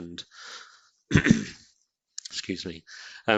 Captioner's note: clearing throat